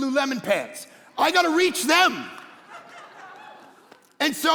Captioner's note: congregation laughing